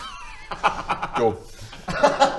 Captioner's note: laughs